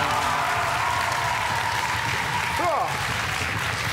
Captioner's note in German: Jubel